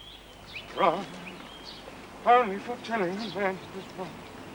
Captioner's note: humming